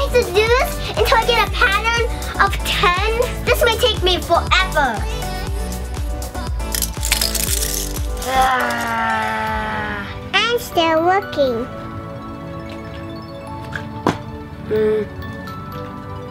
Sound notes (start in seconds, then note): 6.3 clicking; 8.0 groans; 14.1 thump